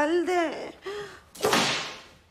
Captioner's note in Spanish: Sonido látigo